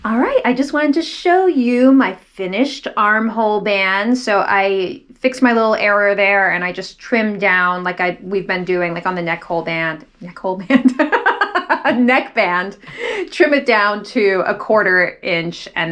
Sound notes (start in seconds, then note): 10.7 laughs